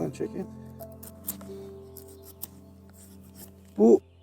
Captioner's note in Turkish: bıçağın aşı kalemini kesme sesi kırt kırt